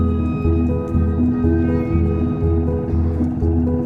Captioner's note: boat rumbling; soft music continues